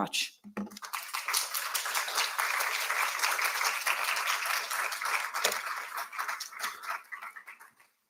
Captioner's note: applause